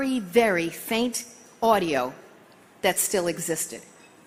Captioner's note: none